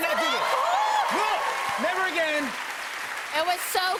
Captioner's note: cheers and applause